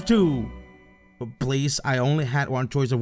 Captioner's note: party horns